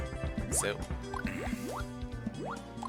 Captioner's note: clears throat